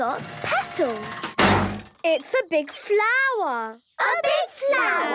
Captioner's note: crane beeping